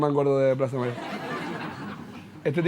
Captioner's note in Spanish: Risas